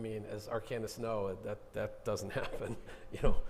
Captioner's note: chuckling